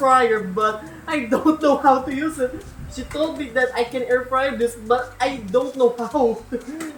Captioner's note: laughs; laughs